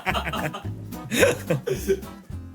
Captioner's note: laughing